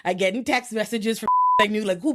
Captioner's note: beep